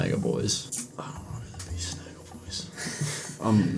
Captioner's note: quietly